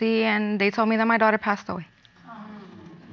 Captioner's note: audience sighs